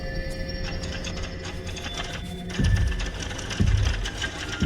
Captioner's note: doorknob clattering